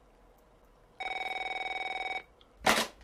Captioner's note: phone rings